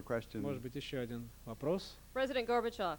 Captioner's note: non-english speech